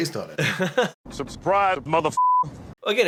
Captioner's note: beeper